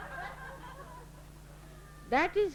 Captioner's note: laughter